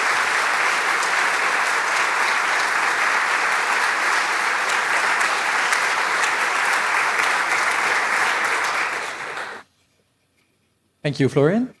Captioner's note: applause